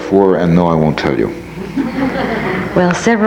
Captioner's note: audience laughs